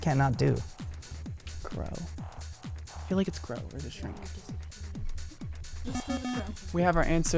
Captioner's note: wispering